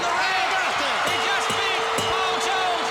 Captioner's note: crowd cheering